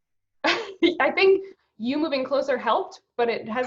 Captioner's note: laughs